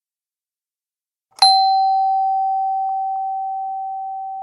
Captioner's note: slow doorbell